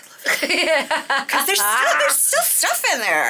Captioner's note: laughing